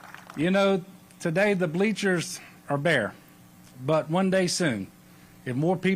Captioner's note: applause